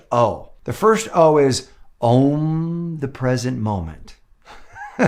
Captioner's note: laughs